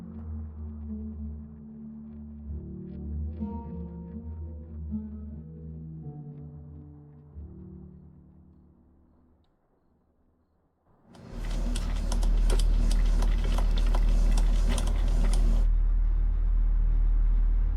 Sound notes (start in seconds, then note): 11.3 coffee dripping